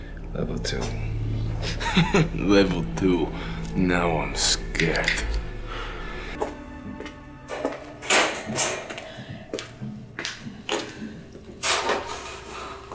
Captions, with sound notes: Level two. [laughs] - Level two, now I'm scared. [rattling]